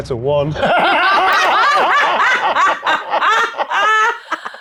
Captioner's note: group laughs